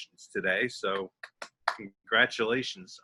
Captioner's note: claps hands